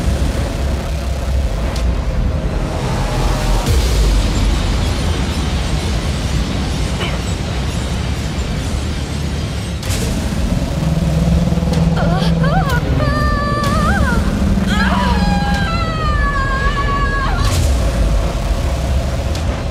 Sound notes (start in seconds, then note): 0.0 exciting music fills the space; 10.7 an alien, incomprehensible sound reverberates; 10.7 exciting music fills the space; 12.4 an alien, incomprehensible sound reverberates; 13.8 exciting music fills the space; 15.0 an alien, incomprehensible sound reverberates; 16.2 exciting music fills the space